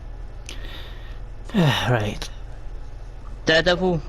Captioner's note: sighs